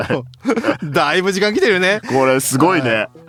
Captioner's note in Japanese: 笑い